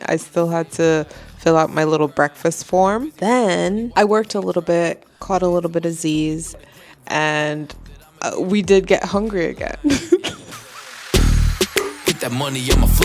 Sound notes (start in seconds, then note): 9.8 laughing